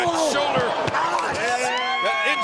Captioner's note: audience cheering